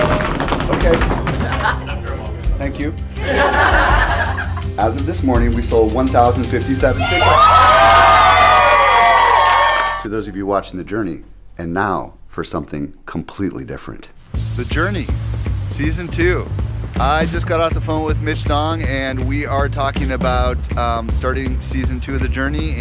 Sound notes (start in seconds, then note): 0.0 banging on desk; 6.9 cheering